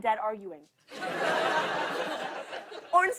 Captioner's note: laughter